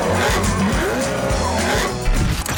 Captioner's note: brappppppp